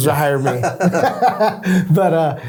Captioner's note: both laughing